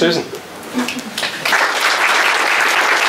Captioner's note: applause